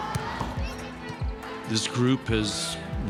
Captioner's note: team cheering